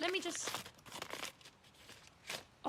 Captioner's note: tearing sounds